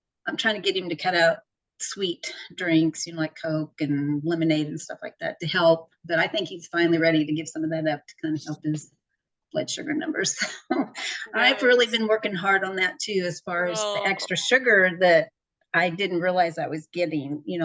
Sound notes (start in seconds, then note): 11.1 laughs